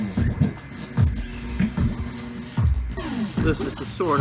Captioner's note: electronics screeching